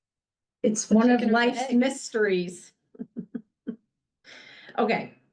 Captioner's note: chuckles